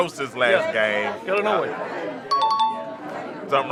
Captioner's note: chime dings